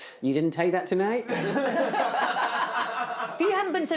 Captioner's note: laughter